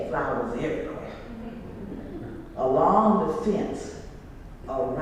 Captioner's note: laugh